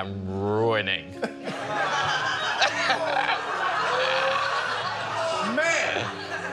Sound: laughter

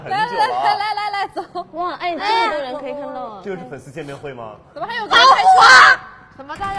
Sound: screaming!

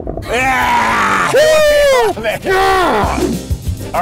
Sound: guys cheer

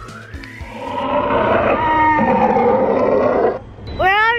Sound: dino roars

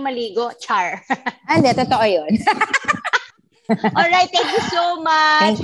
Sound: laughs

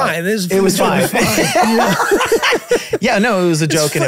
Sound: all laughing

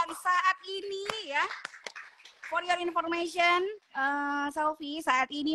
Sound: applause

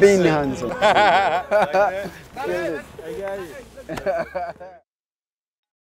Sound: laughter

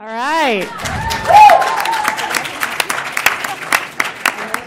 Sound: applause

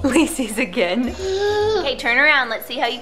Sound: laughs

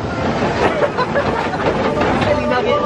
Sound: laughter

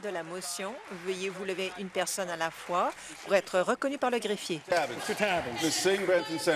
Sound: applause

